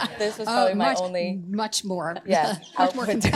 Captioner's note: laughter